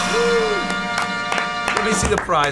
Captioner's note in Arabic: كلاهما يصفق